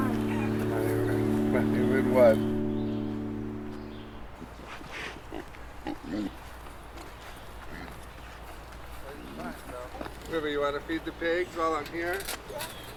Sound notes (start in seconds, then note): 0.1 faintly speaking; 5.8 pig grunting